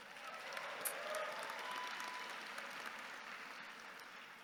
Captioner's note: audience cheering